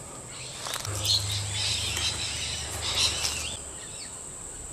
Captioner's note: birds chirping